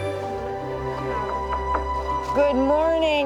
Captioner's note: door knocks